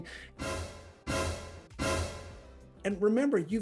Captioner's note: dramatic noise